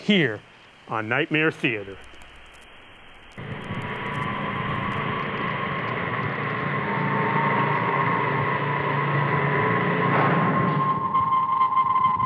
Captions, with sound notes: here on Nightmare Theatre. (ominous music) (loud whirring)